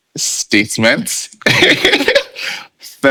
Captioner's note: laughing